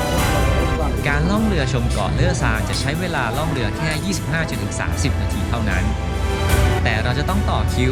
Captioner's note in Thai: เสียงกระดิ่ง